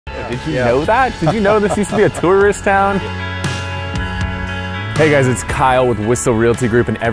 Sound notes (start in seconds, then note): 0.7 laughing